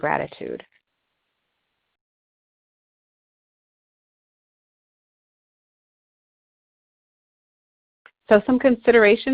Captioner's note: silence